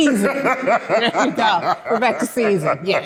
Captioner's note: laughter